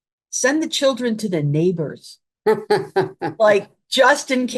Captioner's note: laughing